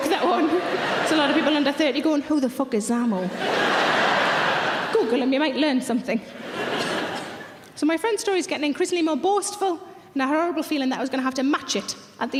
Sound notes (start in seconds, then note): 6.3 audience laughs